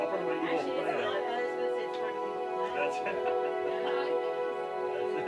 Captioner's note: talking, laughing